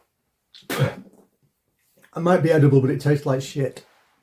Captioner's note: spits